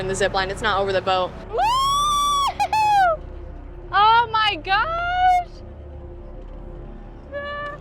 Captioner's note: screaming